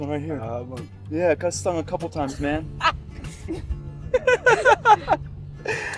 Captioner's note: laughs